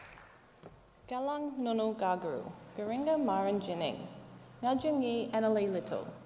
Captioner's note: speaks native language